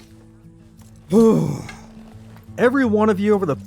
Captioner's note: exhales